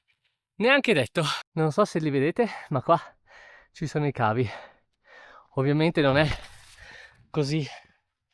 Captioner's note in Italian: sospiri